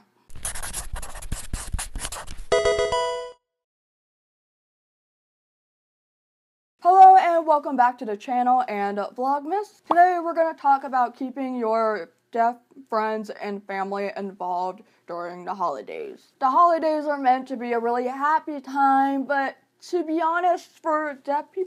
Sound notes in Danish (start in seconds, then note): 2.5 optimistisk chime